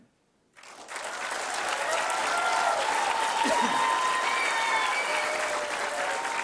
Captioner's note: applause